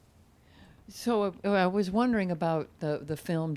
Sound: voiceover

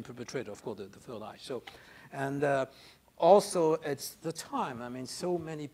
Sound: speaks faintly

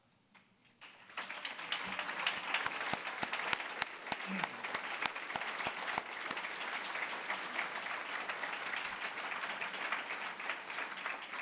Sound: applause

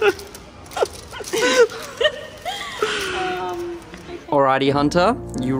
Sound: laughing

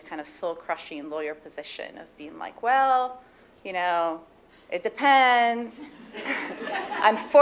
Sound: laughter

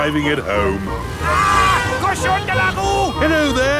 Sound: yells

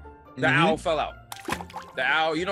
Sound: splash

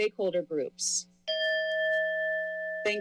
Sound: timer bell dings

